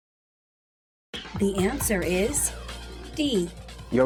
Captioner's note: female announcer speaking